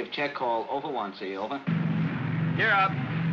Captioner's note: aircraft rumbles